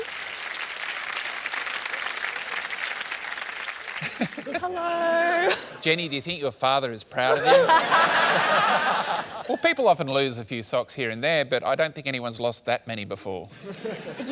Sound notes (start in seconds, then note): 0.0 applause; 7.2 laughter